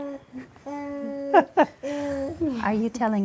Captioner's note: baby babbling; laughter